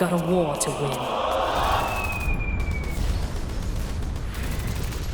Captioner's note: general din of battle